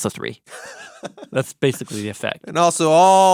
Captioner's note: person laughing